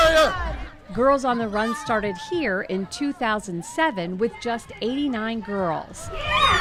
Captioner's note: cheering